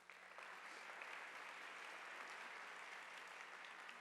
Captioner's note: audience applauding